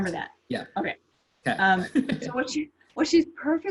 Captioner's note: laughs